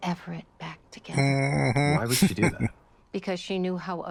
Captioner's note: chuckling